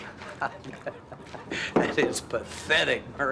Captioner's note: chuckles